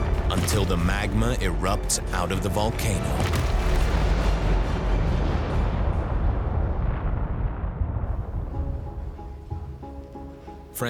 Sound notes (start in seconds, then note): 3.3 explosion echoes